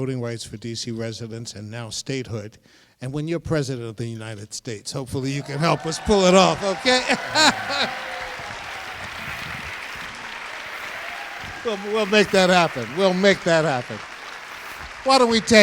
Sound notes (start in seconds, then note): 9.6 crowd cheers, applause